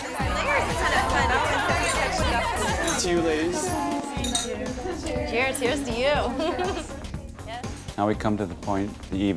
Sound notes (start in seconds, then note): 1.3 women talking and laughing all at once